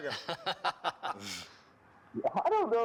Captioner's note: laughter